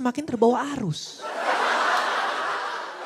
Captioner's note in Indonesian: Audience Tertawa